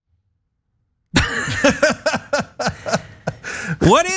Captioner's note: laugh